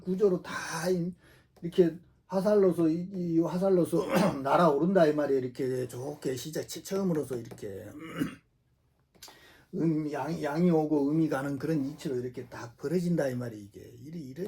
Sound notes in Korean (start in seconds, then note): 7.9 목을 가다듬음